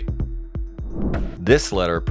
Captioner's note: air whooshes